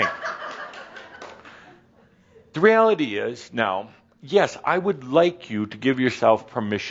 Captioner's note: a few chuckles